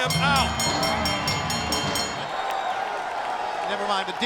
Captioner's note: bell ringing